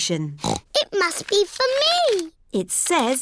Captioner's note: snorts